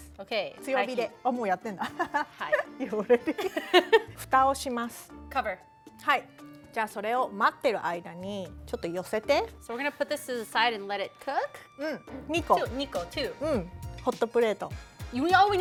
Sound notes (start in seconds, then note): 1.3 speaking Japanese; 1.8 giggles; 4.3 speaking Japanese; 6.9 speaking Japanese; 12.1 speaking Japanese